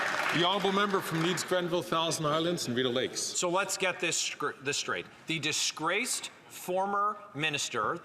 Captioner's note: some Applause